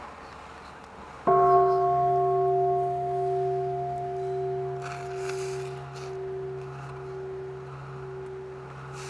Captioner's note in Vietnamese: chuông